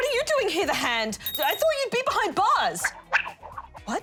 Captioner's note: stammers; bell rings